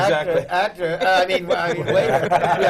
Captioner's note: laughter